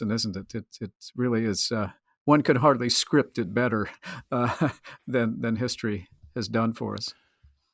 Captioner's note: laughs